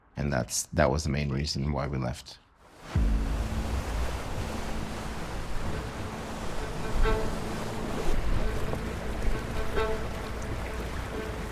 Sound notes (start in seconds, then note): 2.7 waves crashing; 2.9 tense music